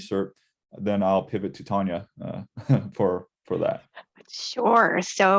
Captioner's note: chuckling